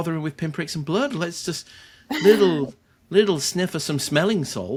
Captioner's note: chuckles